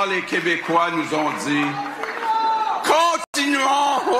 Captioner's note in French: cri dans la salle